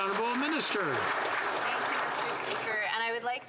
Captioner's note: some Applause